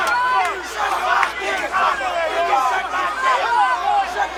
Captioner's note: crowd shouting